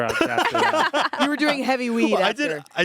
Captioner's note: everyone laughs